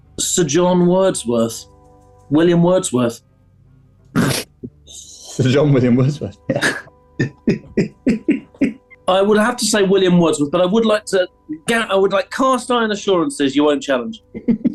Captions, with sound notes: ...Sir John Wordsworth. William Wordsworth. [SNIGGERING] Sir John William Wordsworth, yeah! [CHUCKLING] I would have to say William Wordsworth, but I would like to get... I would like cast iron assurances you won't challenge.